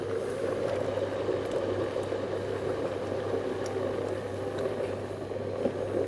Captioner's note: sound of blender whirring